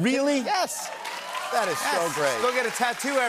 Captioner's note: cheers and applause